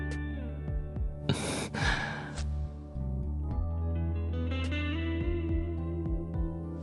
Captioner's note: grunts sexily